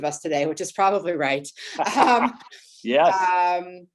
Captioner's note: laughs